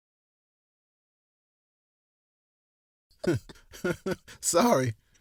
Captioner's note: both laugh